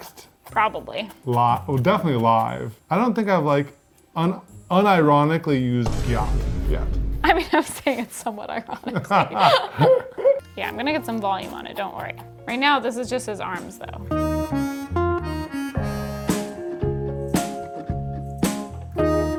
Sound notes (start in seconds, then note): 8.9 laughing; 14.0 gentle music